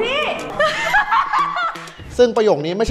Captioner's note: laughs maniacally